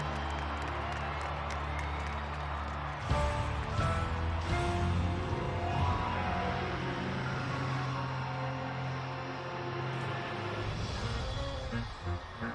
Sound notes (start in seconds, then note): 3.1 cheers and applause; 6.4 dramatic music